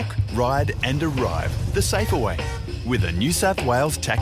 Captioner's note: none